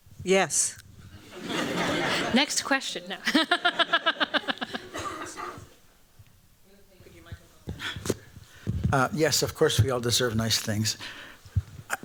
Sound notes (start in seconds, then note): 1.2 laughter